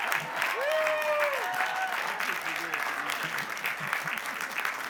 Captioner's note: cheering